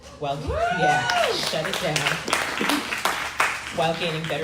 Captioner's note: crowd cheering